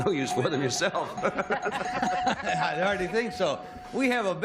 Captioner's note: bell ringing